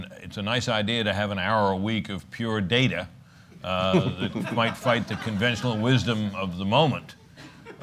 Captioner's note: laughter